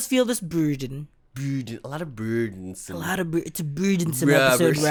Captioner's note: Downton Abbey voice